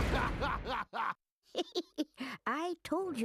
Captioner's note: giggling